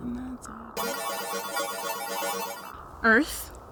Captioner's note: electronic computer sounds playing